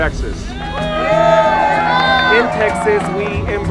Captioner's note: cheers and applause